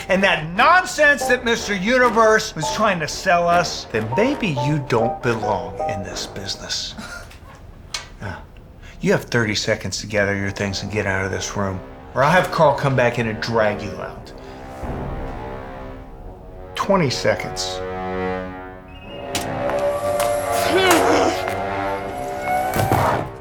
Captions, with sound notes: and that nonsense that Mr. Universe was trying to sell us, then maybe you don't belong in this business. (scoffs) Yeah. You have 30 seconds to gather your things and get out of this room, or I'll have Carl come back in and drag you out. 20 seconds. (scoffs) (door opens) (grunts)